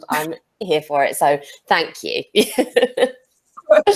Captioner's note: laughs